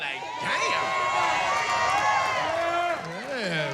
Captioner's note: cheering